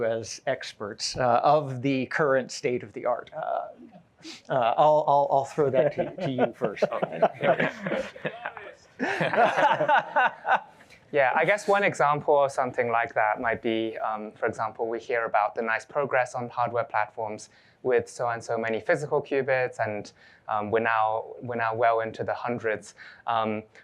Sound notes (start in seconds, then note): 8.1 laughter